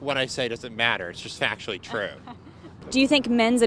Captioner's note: laughing